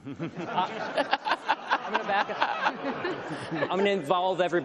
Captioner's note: everyone laughs